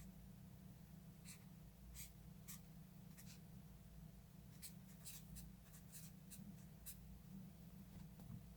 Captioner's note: sounds of brush marker strokes